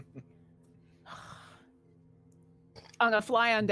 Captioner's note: Briv laughs